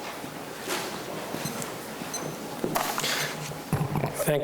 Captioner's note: beeping